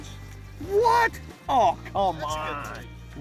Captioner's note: voiceover